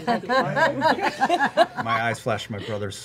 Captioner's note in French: rires